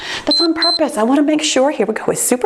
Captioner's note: timer beeps